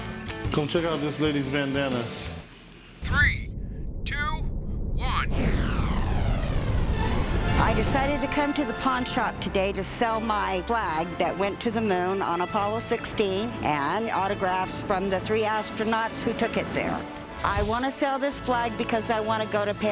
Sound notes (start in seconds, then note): 3.0 explosion